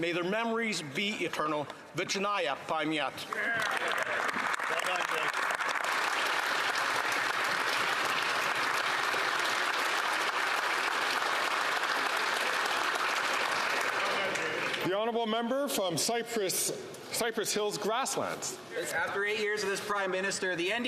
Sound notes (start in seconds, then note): 7.4 some Applause